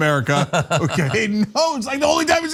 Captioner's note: laugh